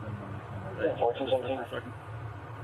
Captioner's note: radio chatter